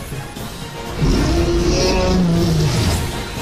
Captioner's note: groans